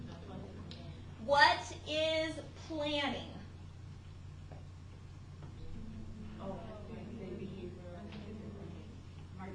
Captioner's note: class mumbling